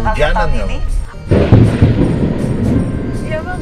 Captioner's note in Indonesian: Suara Petir